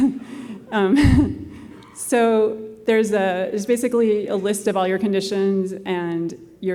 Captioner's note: laughter